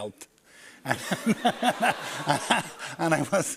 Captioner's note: laughter